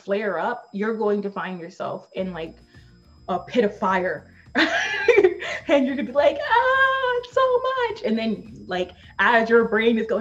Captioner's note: laughs